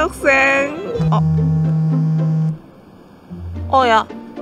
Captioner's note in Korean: 휴대폰 진동